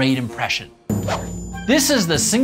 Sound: gentle swoosh

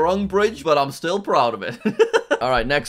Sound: laughs

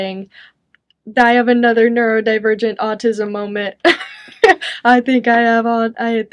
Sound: chuckles

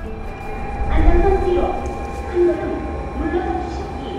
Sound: overhead train announcement in Japanese

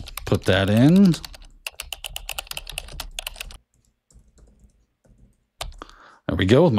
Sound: keyboard clicking

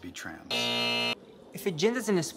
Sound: alarm buzzing

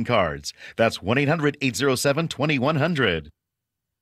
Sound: none

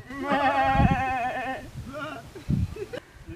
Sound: simulating sheep call

